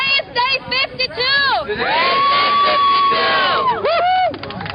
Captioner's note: cheering